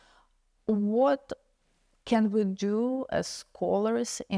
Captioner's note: none